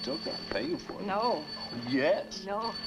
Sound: phone ringing

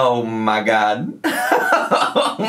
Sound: laughing

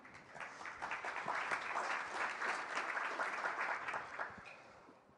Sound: applause

